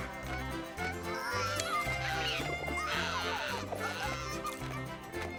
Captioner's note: baby wailing; baby giggles